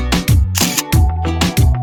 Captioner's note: camera Clicking